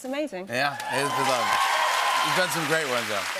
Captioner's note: cheers and applause